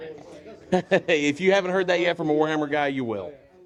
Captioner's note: laughs